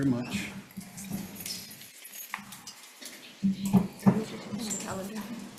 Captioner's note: Committee members whispering